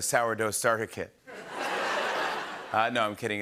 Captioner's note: laughter